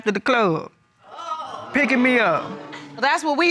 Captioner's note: audience gasp